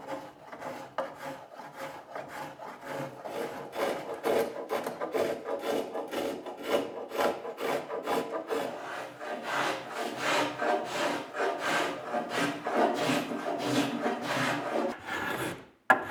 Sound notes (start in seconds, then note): 9.9 powerful, regular planing